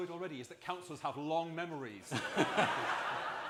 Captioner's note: laughter and applause